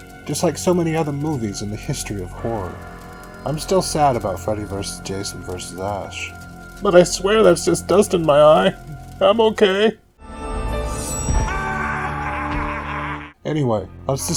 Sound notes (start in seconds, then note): 12.0 emotional crack in voice